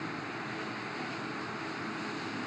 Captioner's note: wind and nature sounds